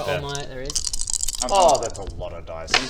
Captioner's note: gleeful dice shaking